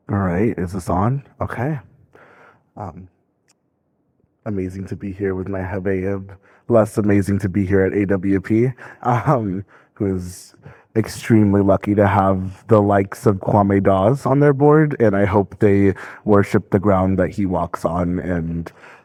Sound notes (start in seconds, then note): 5.5 speaking in foreign language; 9.2 laughing